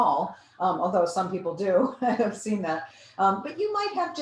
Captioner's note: laughs